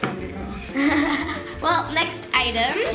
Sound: laughs

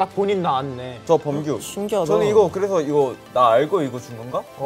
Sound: speaking in Korean

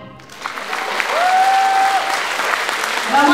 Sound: applause

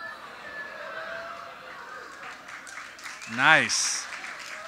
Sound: audience cheers and claps

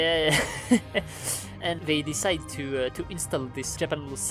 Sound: laughter

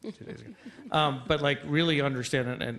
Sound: laughter

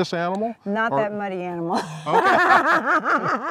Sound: laughs

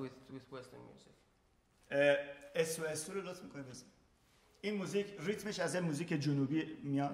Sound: speaking in farsi

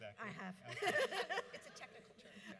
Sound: audience laughs

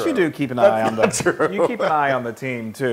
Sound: laugh

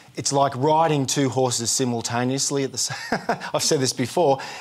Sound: laughs

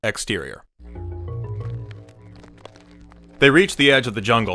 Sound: footsteps on gravel

